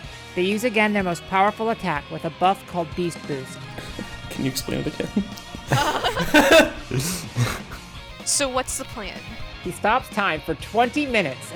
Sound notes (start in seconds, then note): 5.6 everyone laughs